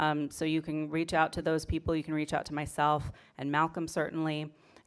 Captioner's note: none